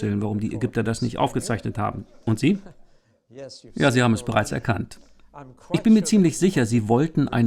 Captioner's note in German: Lachen